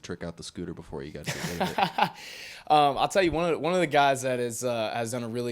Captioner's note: laughs